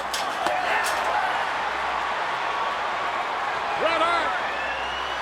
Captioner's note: audience cheering; body thuds